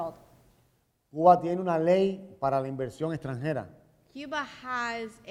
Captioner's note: speaking in Spanish